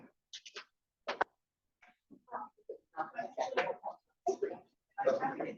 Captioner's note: people chatter indistinctly